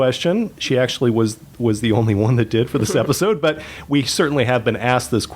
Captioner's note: chuckle